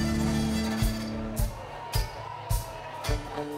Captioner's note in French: cris d'enthousiasme